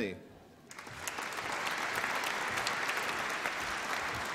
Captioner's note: applause